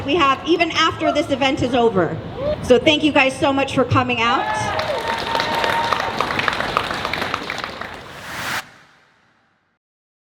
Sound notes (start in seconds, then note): 4.2 cheering; 4.5 clapping